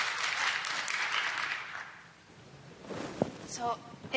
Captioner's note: applause